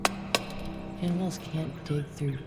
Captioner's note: torch taps